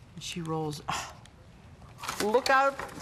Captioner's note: gasps